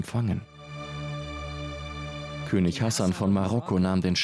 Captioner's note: murmuring